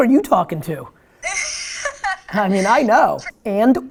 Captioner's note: woman 2 laughs